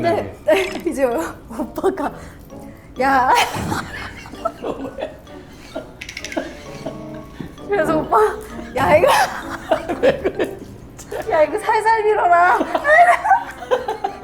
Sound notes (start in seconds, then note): 3.4 bursting into laughter again; 4.8 crying